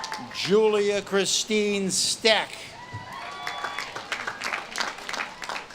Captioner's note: audience claps and cheers